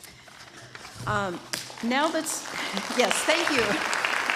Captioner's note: applause